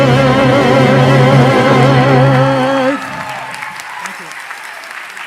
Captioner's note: applause